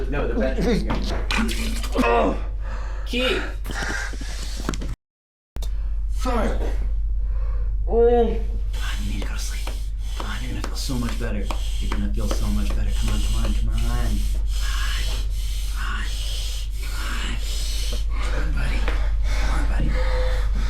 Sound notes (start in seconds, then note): 0.3 Keith retching; 2.2 Keith retching